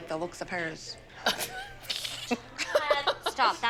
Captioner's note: laughter